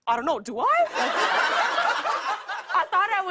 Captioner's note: laughter